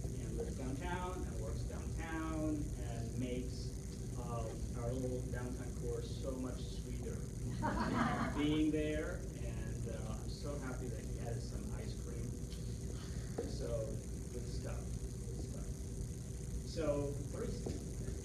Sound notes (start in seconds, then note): 7.5 laughter